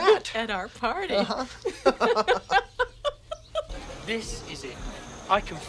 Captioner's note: both laughing